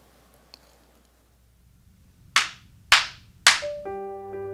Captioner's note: clapping